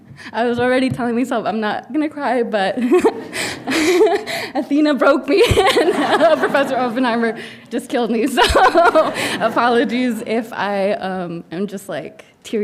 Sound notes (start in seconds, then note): 2.8 laughing; 8.3 laughing